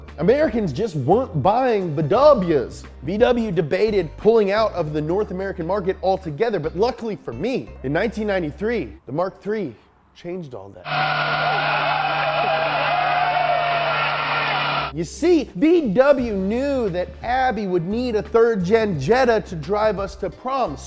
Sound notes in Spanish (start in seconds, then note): 10.8 neumáticos chirriando; 10.9 aplausos